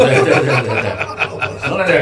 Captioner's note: laughters